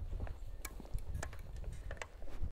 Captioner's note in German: Leises Klicken